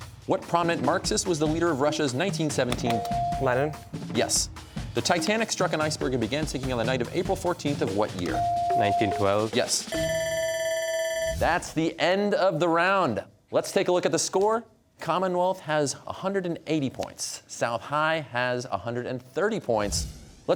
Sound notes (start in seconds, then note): 10.1 bell ringing